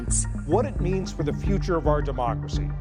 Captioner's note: soundbite of archived recording